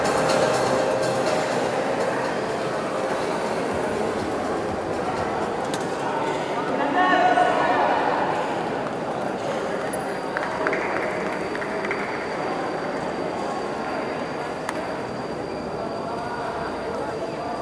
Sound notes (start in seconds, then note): 10.3 applause